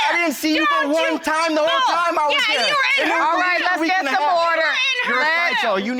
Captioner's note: both arguing loudly